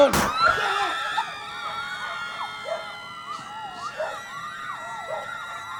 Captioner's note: women shrieking